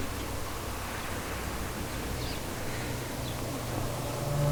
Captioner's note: wind howling